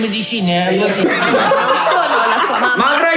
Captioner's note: laughs